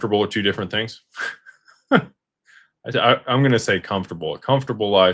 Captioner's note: laughter